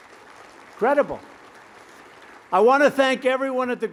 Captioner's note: applause